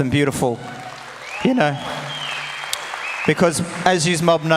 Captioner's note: audience cheers and applauds